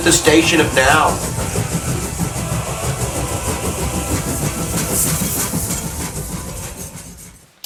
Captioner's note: choo-chooing